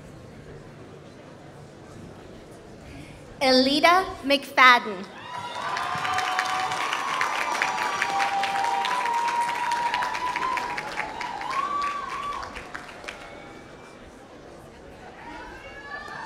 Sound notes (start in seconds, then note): 9.4 applause